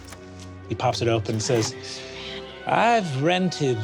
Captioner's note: whispered